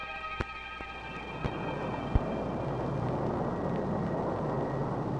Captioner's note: plane engine roaring